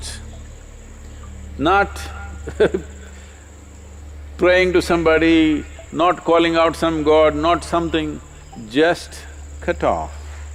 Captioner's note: laughs